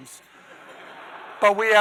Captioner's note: audience laughing